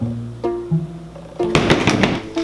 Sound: slam x2!

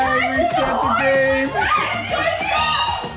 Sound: yelling and screaming

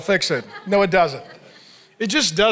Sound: congregation laughing

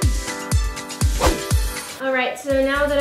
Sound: swooshing

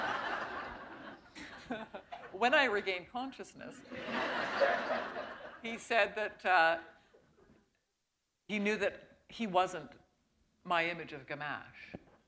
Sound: laughter

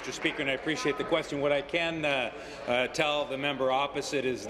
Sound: applause

